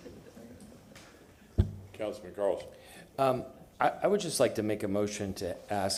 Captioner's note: laughter